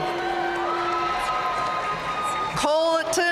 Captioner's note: audience cheering and applauding